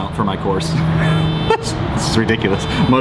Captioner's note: car alarm beeping